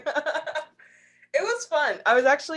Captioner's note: laughs